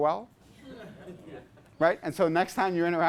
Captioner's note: class laughs